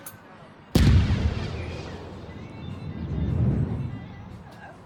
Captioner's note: bang!